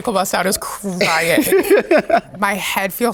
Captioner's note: Sasha laughing